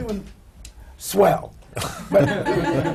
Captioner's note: laughter